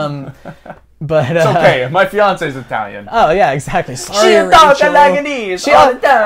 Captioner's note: bad accent